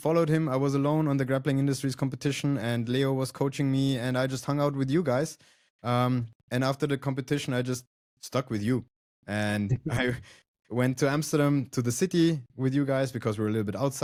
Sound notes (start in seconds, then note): 9.7 laughs